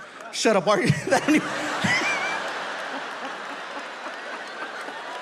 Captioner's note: audience laughs